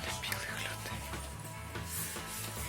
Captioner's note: whipers